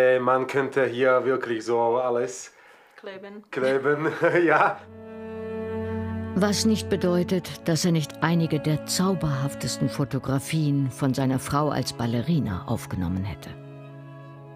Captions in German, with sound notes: Man könnte hier wirklich alles ... - Kleben. (lacht:) Kleben, ja. (Wehmütige Klänge) Was nicht bedeutet, dass er nicht einige der zauberhaftesten Fotografien von seiner Frau als Ballerina aufgenommen hätte.